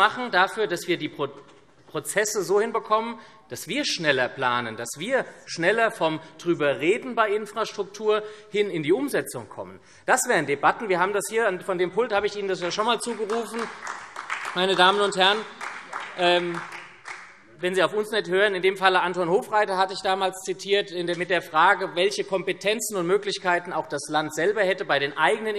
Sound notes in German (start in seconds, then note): 12.7 Beifall SPD